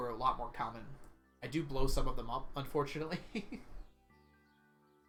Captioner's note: laughs